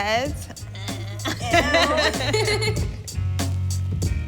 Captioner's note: laughing